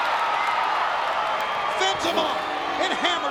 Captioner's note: crowd cheering